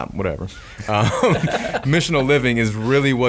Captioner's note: laughing